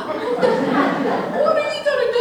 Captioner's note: audience Laughing